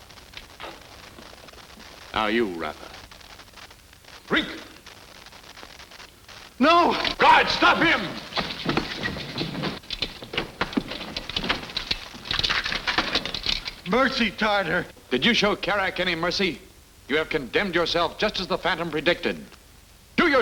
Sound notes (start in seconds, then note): none